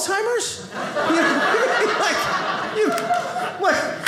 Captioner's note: audience laughing